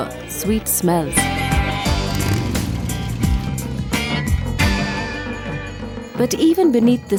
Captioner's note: upbeat music; bike’s motor starts